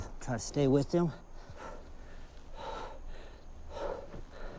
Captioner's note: panting heavily